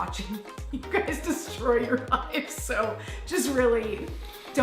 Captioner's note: laughter